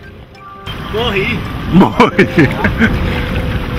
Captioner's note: chuckles